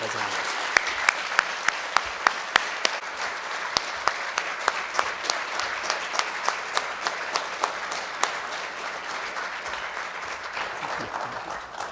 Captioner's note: applause